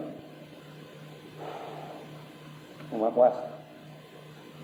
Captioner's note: sighs